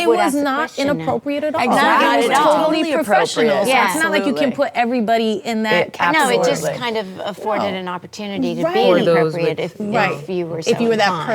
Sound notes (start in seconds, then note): 3.6 ladies reacting